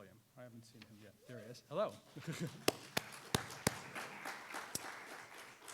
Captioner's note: audience applauds